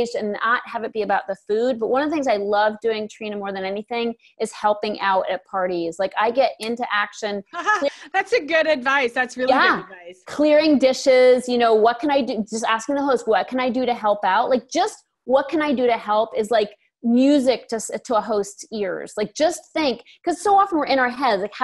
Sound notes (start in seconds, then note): 7.6 laughs